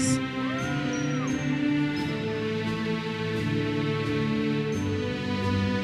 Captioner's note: audience member cheers